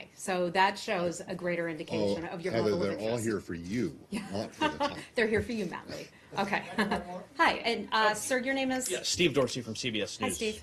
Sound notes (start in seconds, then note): 4.5 laughter